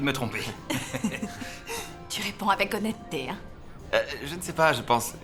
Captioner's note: laughing